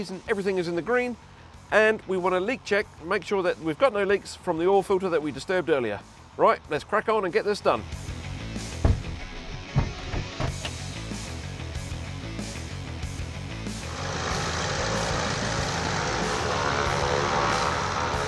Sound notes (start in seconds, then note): 8.5 energetic music; 13.5 engine roars